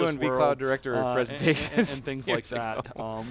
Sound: laughs

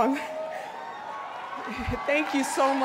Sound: cheering and applause

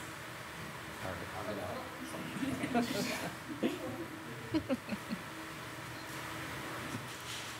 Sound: people softly chuckling and chattering

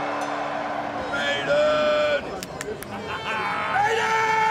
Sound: yells

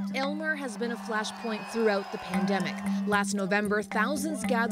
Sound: cheers and applause

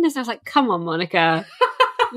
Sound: laughs

